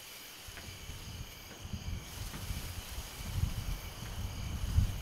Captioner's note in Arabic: هدير الرعد